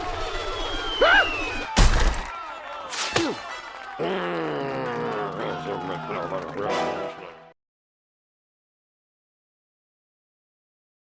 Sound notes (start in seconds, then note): 2.2 grunts; 4.0 growls